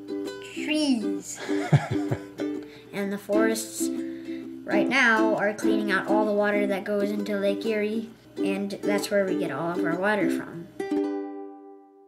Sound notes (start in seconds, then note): 1.4 laughing